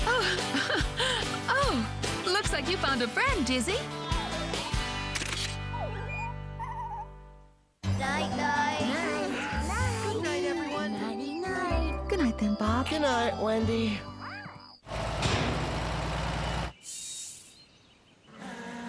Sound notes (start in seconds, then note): 0.1 laughing; 4.0 bird Singing; 5.1 camera Click